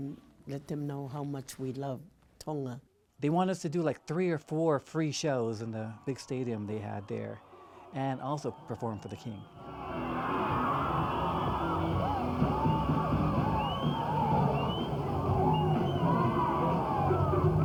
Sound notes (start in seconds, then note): 9.6 bright lively music; 10.5 crowd cheering